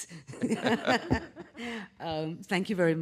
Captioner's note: panel laughing